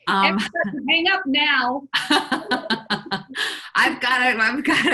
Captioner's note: laughs